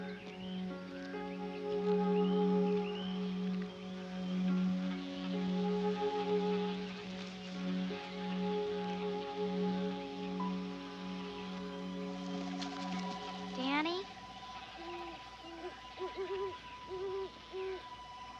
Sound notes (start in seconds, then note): 14.4 owl hooting